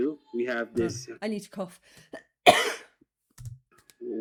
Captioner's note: cough